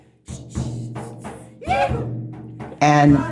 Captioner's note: shout in unison